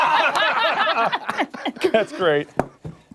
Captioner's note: laughter